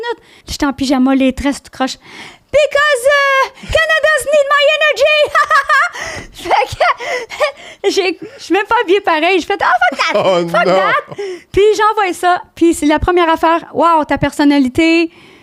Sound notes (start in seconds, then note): 0.3 in french; 4.9 laughing; 8.3 in french; 11.5 in french